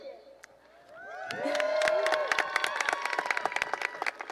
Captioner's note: cheering and applause